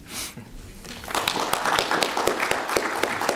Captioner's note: applause